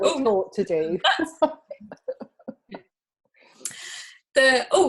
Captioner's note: both laughing